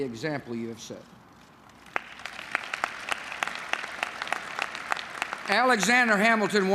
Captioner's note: applause